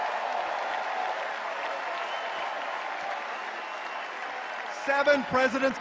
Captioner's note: cheers and applause